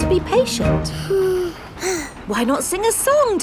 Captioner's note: both sigh